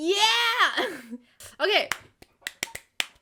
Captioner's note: clap